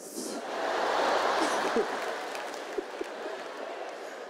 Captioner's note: audience laughs